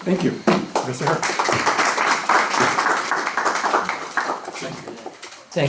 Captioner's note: applause